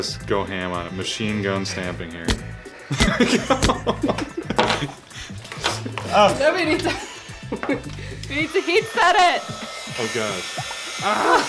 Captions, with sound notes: - Just go ham on it, machine gun stamping here. (stamper clicking) (laughing) - Then we need to-- We need to heat set it! - Oh god.